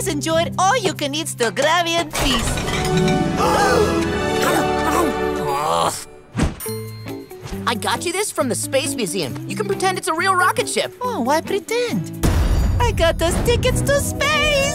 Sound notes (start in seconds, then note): 3.3 gasping; 4.7 groaning